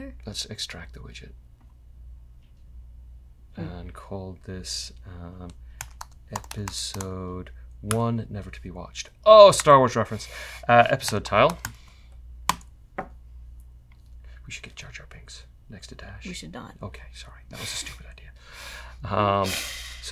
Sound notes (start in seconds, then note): 13.9 whispering